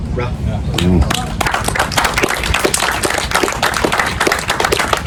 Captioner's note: audience applause